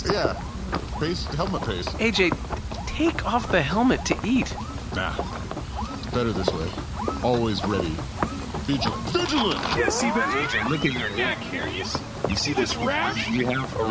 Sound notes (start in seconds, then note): 9.6 charges blaster